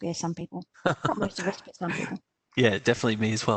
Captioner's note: laughs